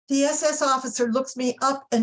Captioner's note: none